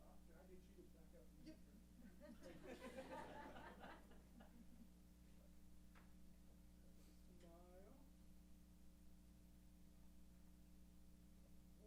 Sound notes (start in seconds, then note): 2.0 laughs